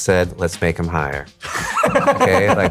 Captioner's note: laughs